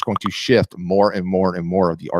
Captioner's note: bubbles popping